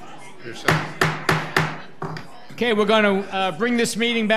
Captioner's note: gavel bangs